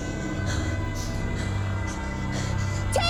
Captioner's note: Wendy breathing heavily